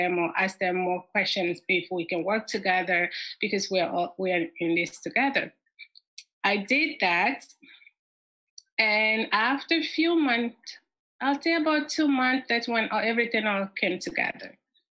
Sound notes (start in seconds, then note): none